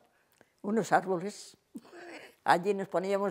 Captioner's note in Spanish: ríe